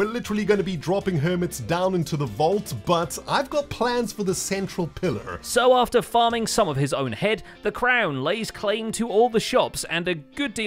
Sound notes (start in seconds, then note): none